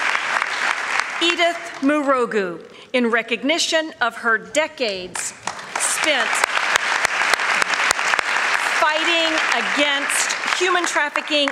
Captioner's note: applause